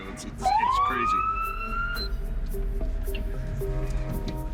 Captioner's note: sirens wailing